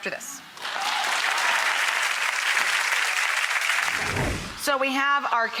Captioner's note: audience applauds